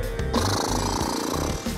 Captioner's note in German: schnaubt